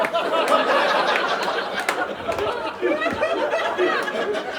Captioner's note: audience laughing